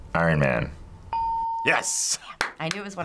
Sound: hitting bell; ding

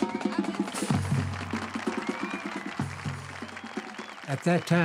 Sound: marching band continues; crowd cheering and applauding

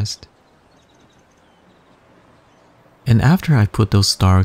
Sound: birds chirping

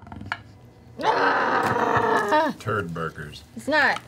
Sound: groans

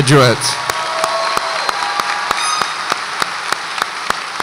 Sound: audience applauds

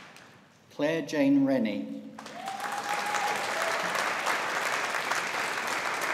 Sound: audience applauding

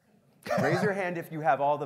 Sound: laughs

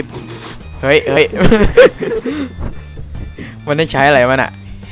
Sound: laughing

